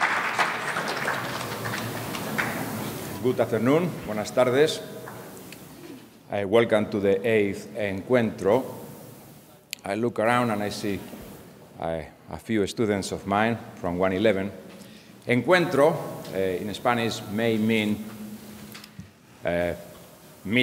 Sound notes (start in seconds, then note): 4.2 speaking in a foreign language